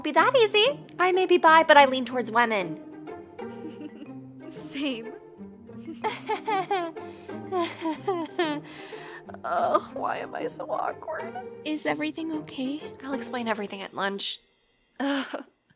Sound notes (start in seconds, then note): 3.4 chuckles; 5.7 chuckles; 5.8 fake laugh